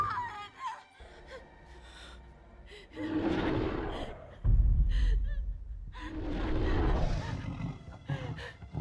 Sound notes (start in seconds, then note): 2.1 dinosaur growls